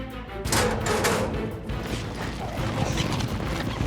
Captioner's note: gate opens